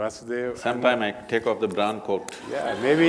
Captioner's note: laughter